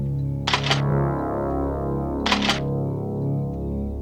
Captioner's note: riffles click; dramatic music